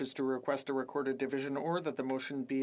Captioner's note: speaking French